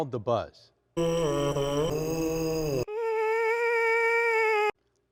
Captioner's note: men buzzing